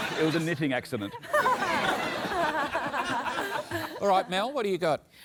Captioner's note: laughter